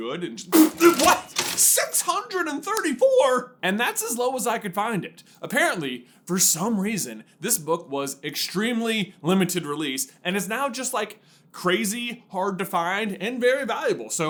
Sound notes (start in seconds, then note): 0.5 spppppplt